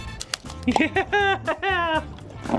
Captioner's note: psychotic laugh